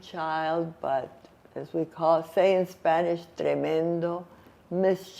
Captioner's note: spanish